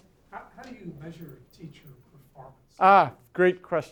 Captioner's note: voiceover